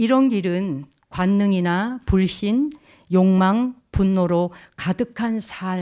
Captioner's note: speaking in Korean